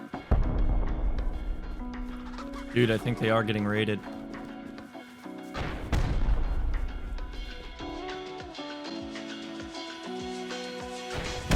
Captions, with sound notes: *boom* Dude, I think they are getting raided. *rocket fire*